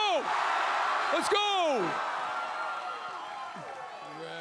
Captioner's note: crowd cheers